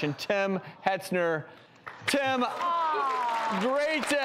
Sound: audience applauds

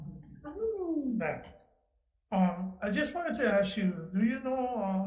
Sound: murmurs

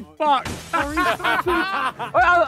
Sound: boat smashing; laughing

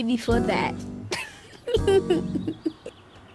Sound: laughs

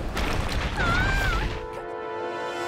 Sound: screaming

